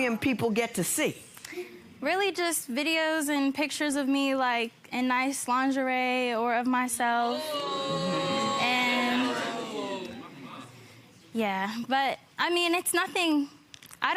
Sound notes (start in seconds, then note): none